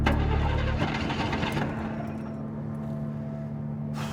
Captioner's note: engine sputtering